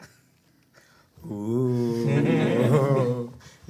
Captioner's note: everyone chuckles